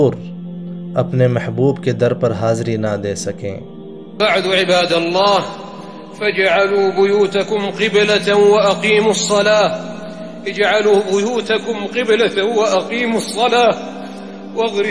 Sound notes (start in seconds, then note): 3.8 reciting Quranic verse